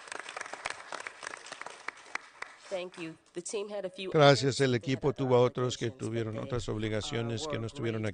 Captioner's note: applause